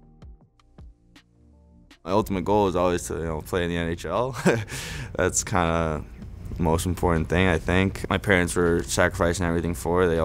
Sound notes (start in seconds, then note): 0.2 soft upbeat music; 4.3 laughs